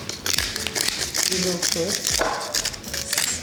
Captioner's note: pepper grinder grinding